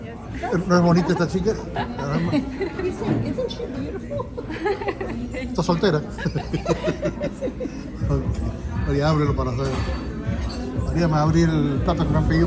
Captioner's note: laughs